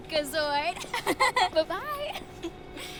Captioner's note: Becky chuckling